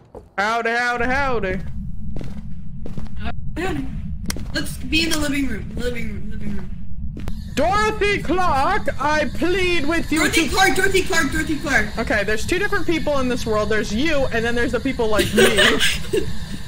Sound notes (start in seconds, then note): 7.2 static of spirit box; 15.2 laughs